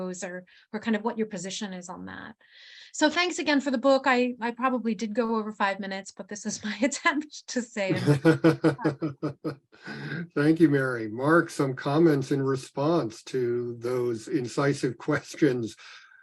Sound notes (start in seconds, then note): 7.9 chuckling; 7.9 chuckles